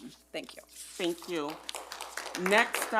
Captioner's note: audience clapping